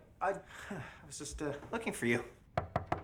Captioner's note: knocking